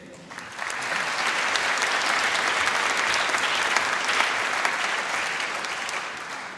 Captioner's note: applause